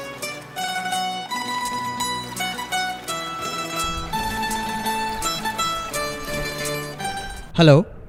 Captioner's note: ringing